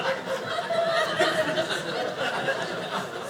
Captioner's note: audience laughing